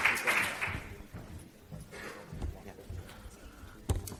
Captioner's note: faint chatter